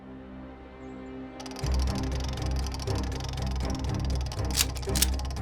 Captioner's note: wheel spinning; cocks rifle; wheel spinning